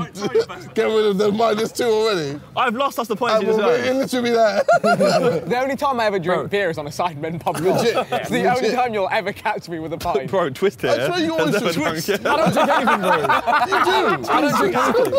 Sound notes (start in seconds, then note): 11.2 all laughing; 11.3 all chattering